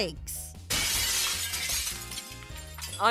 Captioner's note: glass Breaking